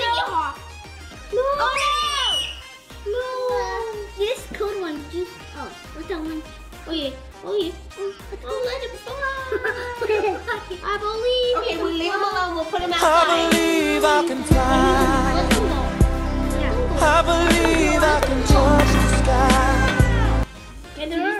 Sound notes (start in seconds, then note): 1.5 screaming; 9.4 laughter